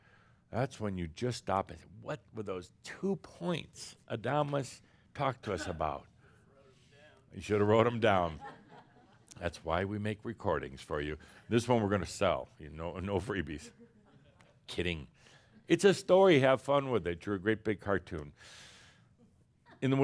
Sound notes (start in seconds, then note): 8.9 some chuckles